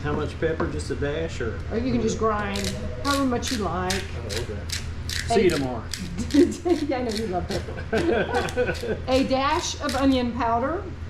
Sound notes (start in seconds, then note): 6.0 laughs